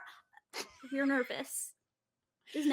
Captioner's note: laughing